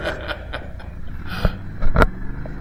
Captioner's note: both laughing